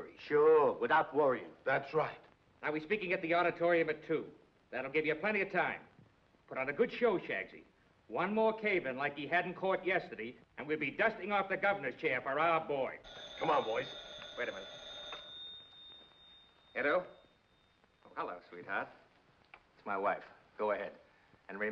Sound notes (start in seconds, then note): 13.0 phone rings